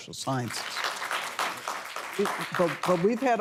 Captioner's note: applause